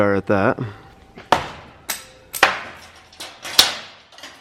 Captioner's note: banging